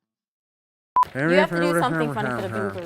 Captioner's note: speaking gibberish